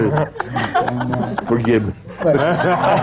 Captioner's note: laughter